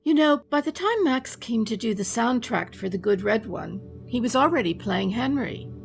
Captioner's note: none